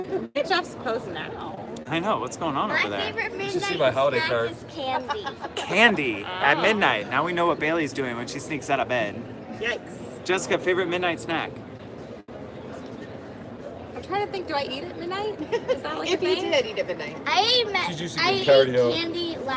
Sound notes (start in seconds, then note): 15.4 laughter